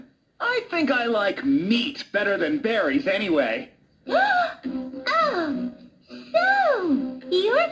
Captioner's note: gasps